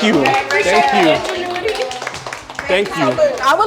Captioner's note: applause